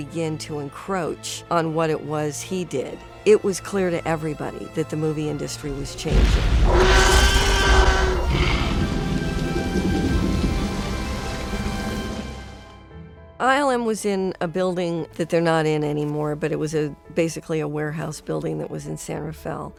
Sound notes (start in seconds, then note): 6.5 t-rex roars